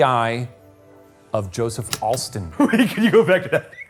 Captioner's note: projector clicking